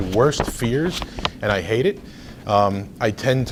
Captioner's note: rustles papers